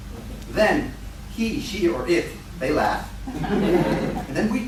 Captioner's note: laughter